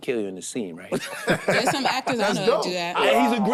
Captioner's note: group laughing